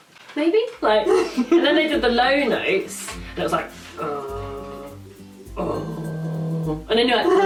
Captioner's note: more beeping sounds